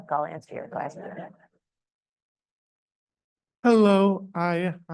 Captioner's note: audience chuckles